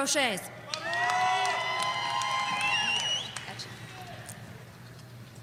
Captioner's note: audience cheering